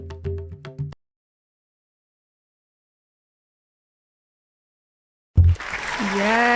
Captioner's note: silence